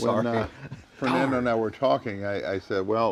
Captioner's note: chuckles